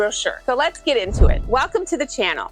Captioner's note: whooshing